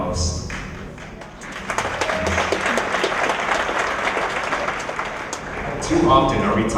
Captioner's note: applause